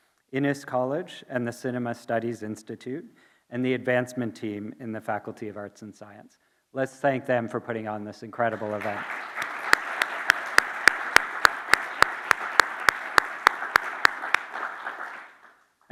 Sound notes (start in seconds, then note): 8.5 audience and applauding